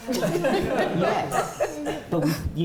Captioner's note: laughter